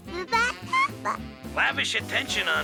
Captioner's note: baby cooing